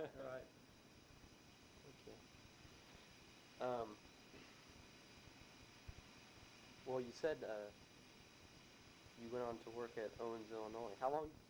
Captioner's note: chuckles